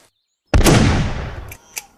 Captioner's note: gunshot